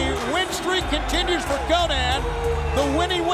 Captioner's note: bell ringing